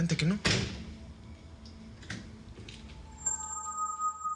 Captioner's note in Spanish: Portazo